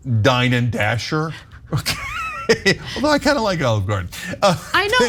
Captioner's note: laugh